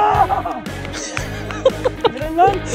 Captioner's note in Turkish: Gülüşmeler ve eğlenceli müzik